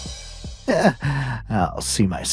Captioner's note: chuckles